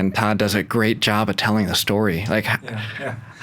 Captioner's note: laughs